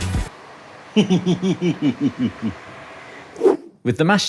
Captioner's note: giggles